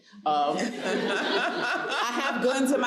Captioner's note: audience laughs